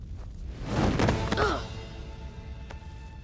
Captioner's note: grunting